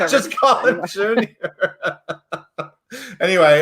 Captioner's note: laughs